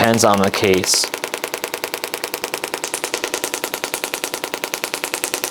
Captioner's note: machine continues tapping